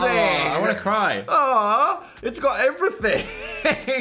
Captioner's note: laughing